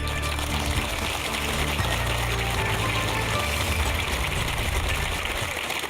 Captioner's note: applause